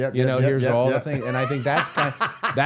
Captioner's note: Matt laughing